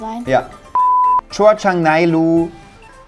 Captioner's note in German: Piepton